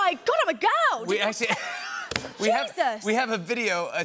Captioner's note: laughs